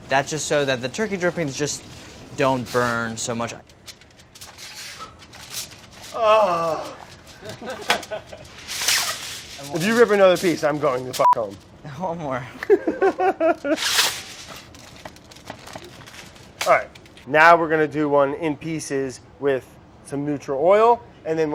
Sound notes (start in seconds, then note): 6.0 groans; 7.2 people laugh; 12.6 laughs